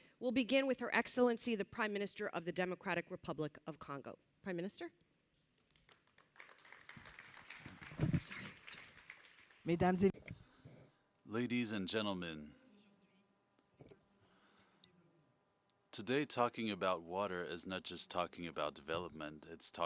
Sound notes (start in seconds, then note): 9.6 applauses